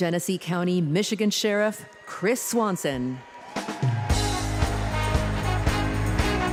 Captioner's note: applause